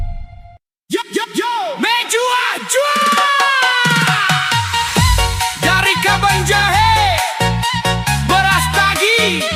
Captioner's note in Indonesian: berteriak